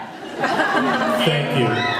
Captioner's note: laughs